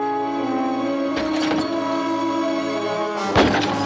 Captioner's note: glass shatters outside